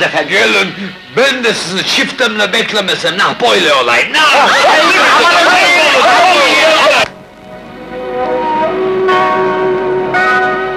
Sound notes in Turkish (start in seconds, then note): 4.2 Bağırış, çığırış kaçışma